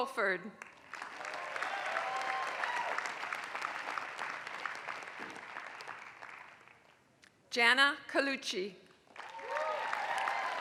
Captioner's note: applause; applause